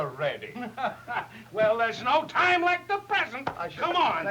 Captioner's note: chuckles